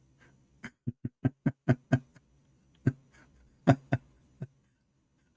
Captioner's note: Ketawa